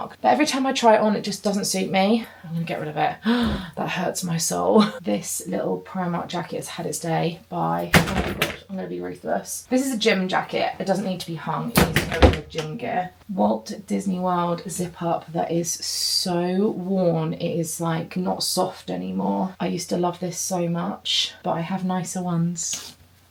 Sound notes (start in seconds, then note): 3.2 gasps